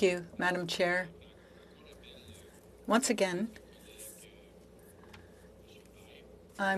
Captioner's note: speaking French